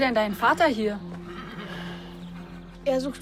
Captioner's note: horse whinnying